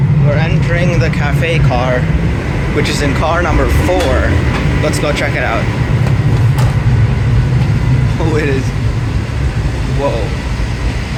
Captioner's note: train Noise